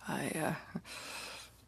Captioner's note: speaking in french